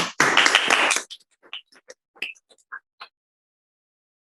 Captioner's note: applause